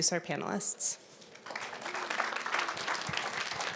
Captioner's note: applause